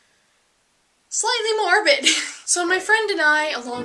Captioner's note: laughs